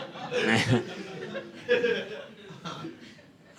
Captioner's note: audience laughing